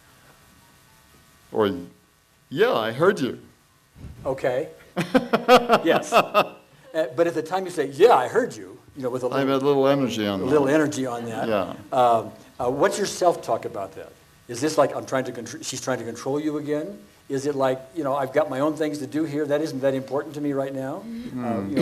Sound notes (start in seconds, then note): 4.9 laughs